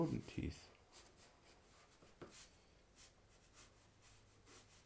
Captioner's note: pencil scratching